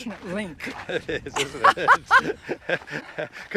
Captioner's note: laughing